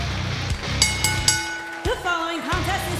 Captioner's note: bell rings